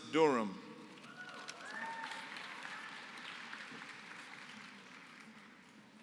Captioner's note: applause